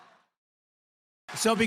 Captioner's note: applause